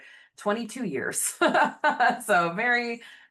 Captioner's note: laughing